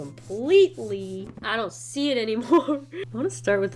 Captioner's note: laughs